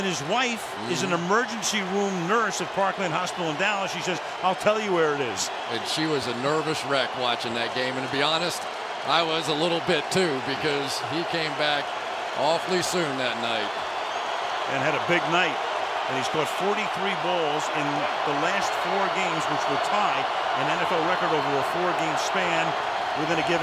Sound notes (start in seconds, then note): 14.4 cheering